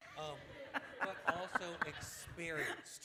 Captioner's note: laughter